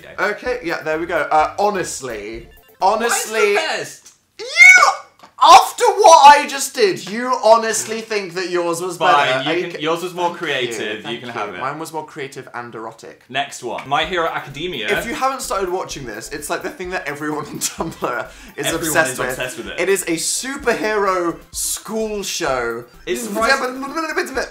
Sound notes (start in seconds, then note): 2.8 ultrasonic; 6.8 laughing